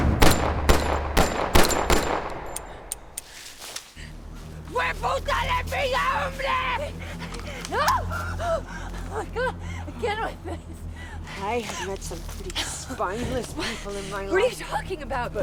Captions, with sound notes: (gun firing) (Mackenzie speaking in foreign language) - Hey! (Abigail screams) God, again with this! - I have met some pretty spineless in my life, - What are you talking about!